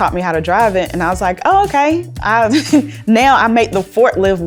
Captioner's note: laughs